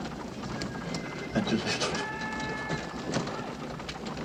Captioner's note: sobbing